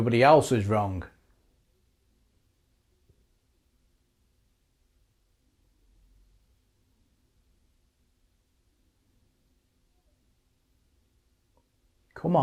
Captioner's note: silence